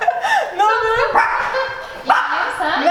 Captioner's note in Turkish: gülüşmeler; köpek havlama sesi